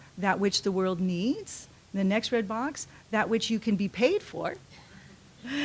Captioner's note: laughs